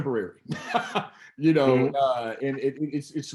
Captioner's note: laughs